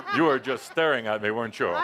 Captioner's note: laughter